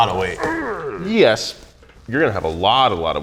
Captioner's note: man grunts